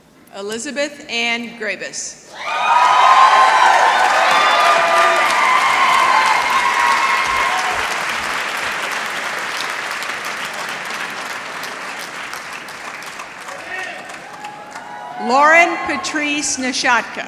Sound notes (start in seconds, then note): 2.4 applause